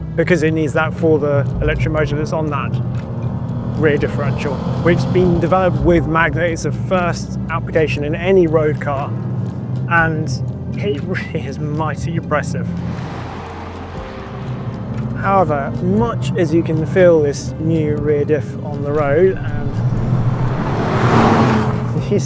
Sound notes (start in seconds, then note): 13.1 vehicle revs; 19.7 vehicle revs